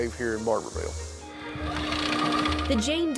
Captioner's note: microfiche whirring